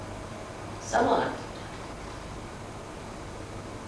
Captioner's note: hindi